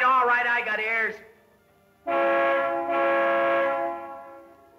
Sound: horn honks

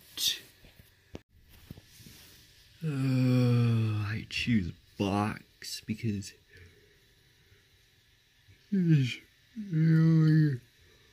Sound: yawns

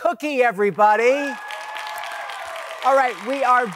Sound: audience claps

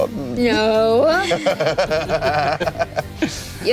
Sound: laughing

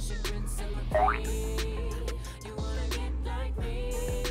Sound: squishing spring

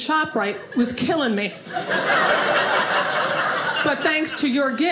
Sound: audience laughing

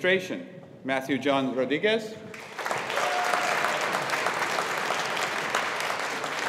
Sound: audience applauding

